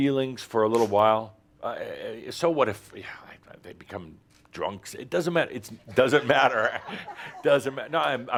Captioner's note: some chuckles